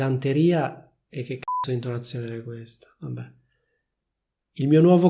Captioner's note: beep